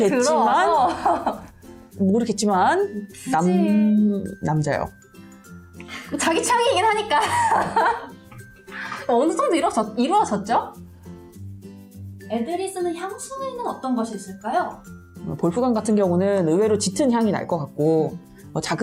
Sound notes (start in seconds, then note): 7.1 laughing